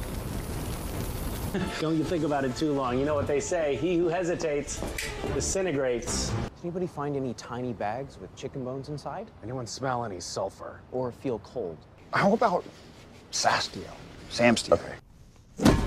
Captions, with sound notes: Don't you think about it too long you know what they say, "He who hesitates, *Snaps* disintegrates." Anybody find any tiny bags with chicken bones inside? Anyone smell any sulphur? Or feel cold? How about "Sastiel", "Samstiel"?